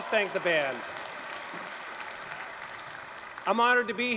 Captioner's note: applause, cheering